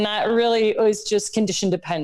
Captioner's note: laughs